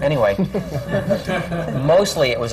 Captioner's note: laughter